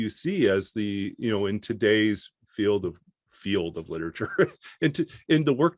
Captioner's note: chuckles